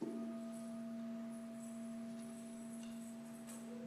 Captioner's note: bell rings